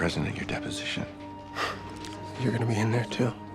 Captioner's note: chuckles